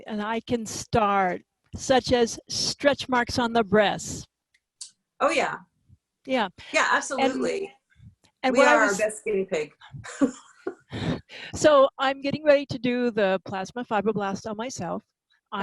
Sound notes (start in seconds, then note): 10.1 laughs